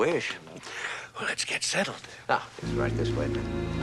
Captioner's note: sighing